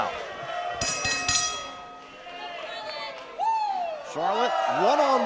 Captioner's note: bell ringing